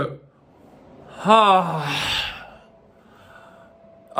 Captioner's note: sighs heavily